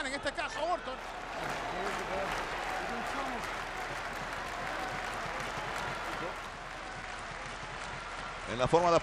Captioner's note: applause